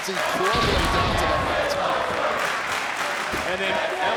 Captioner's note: crowd chanting